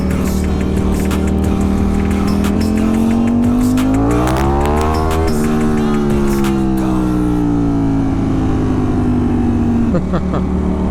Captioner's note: engine revving; laughing